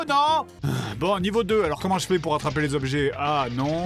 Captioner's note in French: soupir